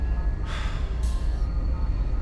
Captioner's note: sigh